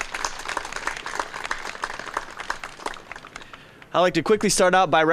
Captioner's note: applause